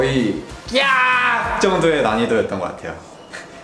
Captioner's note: screaming